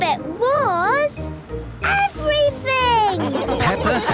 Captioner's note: laughing